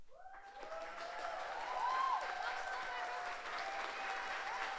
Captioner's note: audience applauds